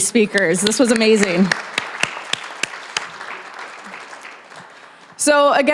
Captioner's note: applause